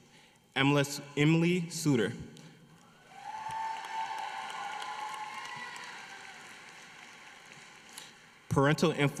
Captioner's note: applause